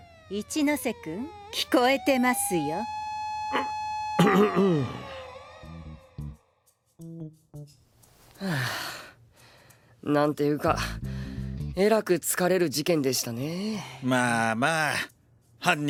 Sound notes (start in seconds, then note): 4.2 clears throat; 10.7 sighs